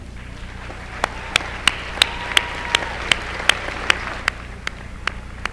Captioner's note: applause